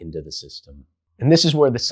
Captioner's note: beat